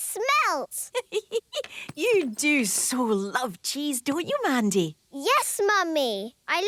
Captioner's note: giggling